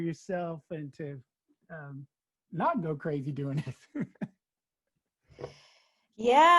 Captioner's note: laughs